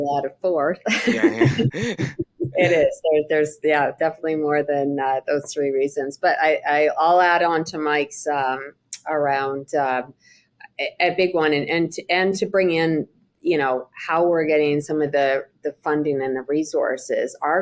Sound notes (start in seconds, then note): 0.9 all chuckling